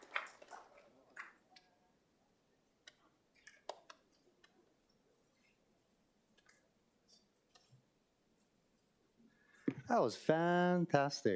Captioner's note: applause